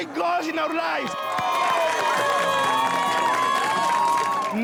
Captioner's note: cheers and applause